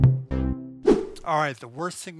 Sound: air swooshing

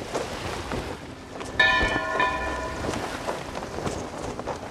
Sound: ancient bell ringing

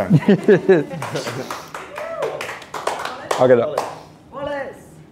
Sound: team cheers and applauds

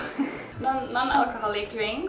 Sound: chuckles

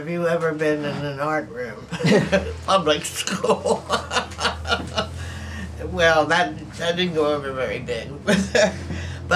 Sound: laughs

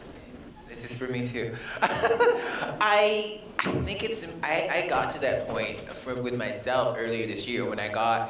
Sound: laughs

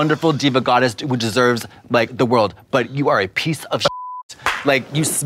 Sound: beep

